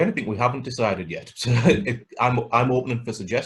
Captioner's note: laughs